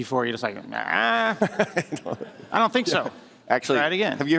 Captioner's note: laughter